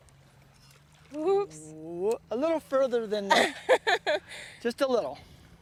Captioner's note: laughter